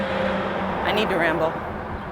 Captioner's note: car engine revving